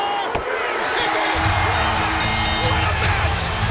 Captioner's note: bell ringing